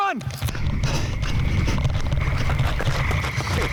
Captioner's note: heavy breathing